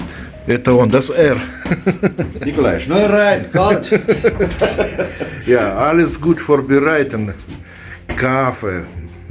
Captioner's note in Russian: смех